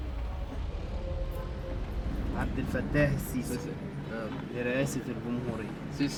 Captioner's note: both speaking Arabic